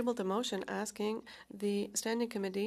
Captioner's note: speaking French